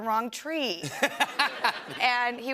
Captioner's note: laughter